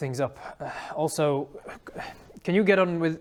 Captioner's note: sigh